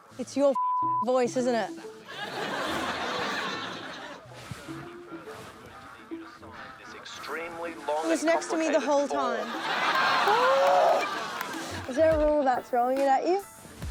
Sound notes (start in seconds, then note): 4.7 faint recording; 10.4 groans